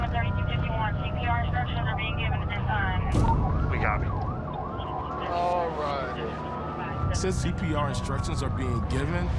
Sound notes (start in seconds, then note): 0.6 indistinct chatter on radio